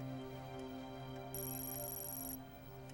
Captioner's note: beeping